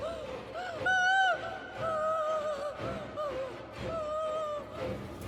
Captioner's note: Julie cries get louder as she exits car